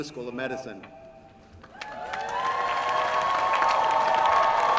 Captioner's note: cheering